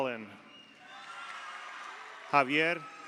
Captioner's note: audience cheers; audience applauds